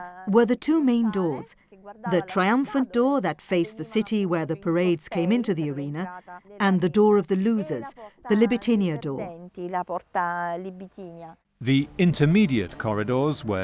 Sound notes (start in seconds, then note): 8.4 speaking in foreign language